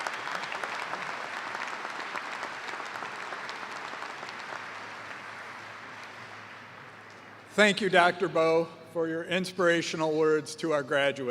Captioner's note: cheers and applause